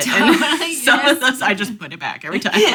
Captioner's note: laughing